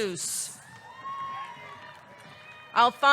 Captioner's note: audience cheering